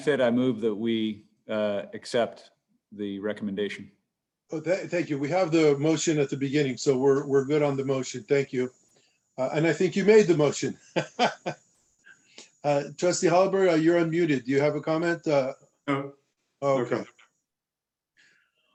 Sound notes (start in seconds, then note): 10.9 laughter